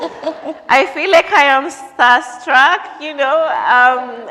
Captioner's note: laughter